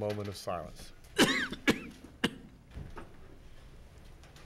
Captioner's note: man coughs